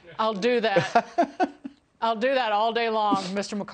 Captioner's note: laughter